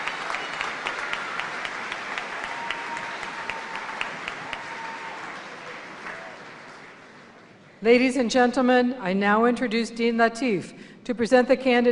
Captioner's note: cheers and applause